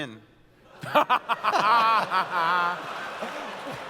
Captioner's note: laughter